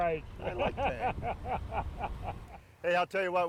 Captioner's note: laughs